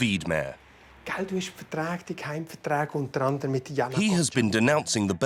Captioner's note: foreign spoken audio